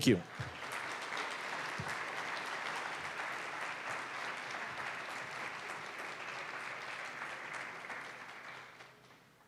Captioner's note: applause